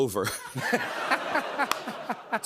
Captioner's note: laughter